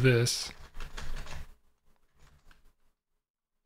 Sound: typing

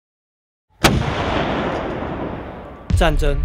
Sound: boom

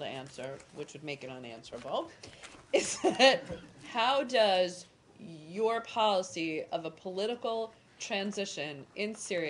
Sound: laughter

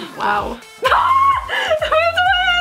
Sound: shrieks

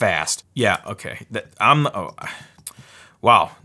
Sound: stutters

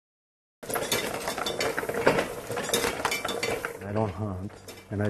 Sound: metals clanking

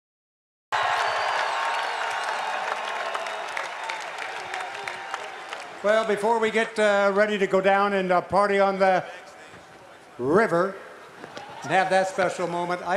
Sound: cheers and applause

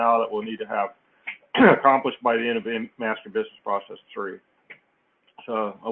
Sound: cough

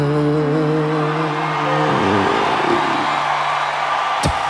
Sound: crowd cheering

